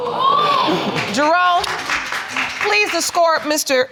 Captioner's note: audience exclaiming; applause